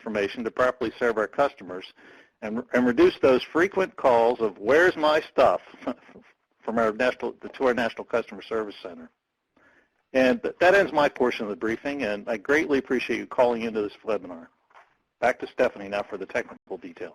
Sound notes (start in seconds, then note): 5.7 laughs